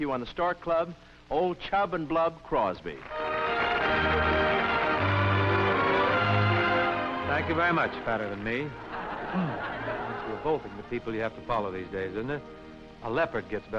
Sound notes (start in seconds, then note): 2.8 applause; 8.8 laughter